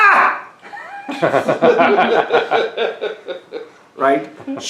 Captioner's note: o.s. laugh